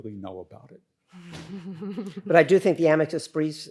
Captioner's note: group chuckles